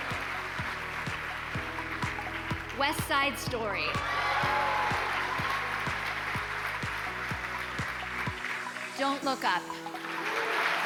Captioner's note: cheers and applause